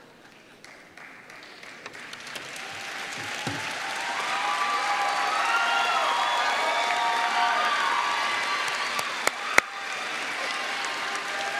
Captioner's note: applause